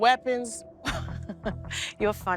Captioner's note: laughs